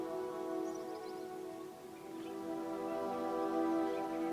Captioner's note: soft dramatic music continues; birds chirping